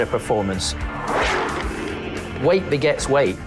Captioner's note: car zooming